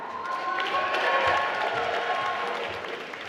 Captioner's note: applause